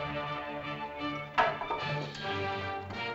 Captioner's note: suspenseful music; staff clatters; suspenseful music